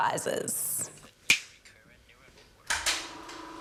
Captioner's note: clicks fingers